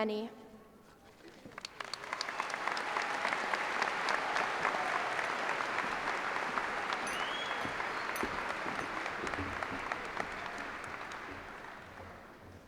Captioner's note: cheers and applause